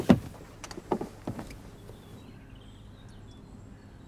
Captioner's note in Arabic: زقزقة الطيور